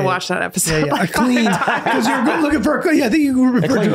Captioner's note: everyone laughing